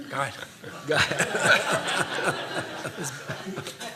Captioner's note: laughter